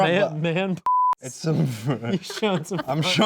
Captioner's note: laughing